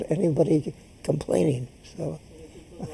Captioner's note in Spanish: laughs